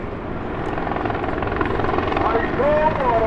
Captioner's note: helicopter whirs